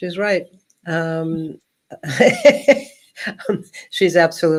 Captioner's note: laughing